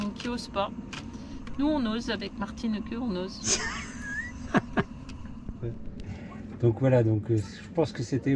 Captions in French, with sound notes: il y a des beaux bateaux qui osent pas nous on ose avec martineke (rires) donc voilà